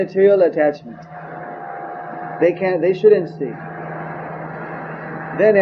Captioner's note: none